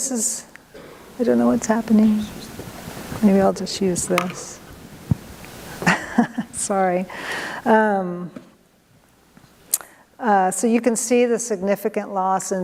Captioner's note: laughter